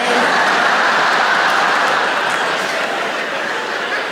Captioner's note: audience laughs